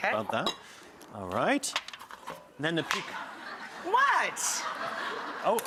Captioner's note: audience laughs